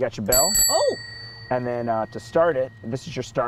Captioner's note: bell Rings